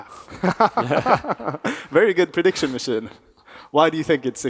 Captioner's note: chuckles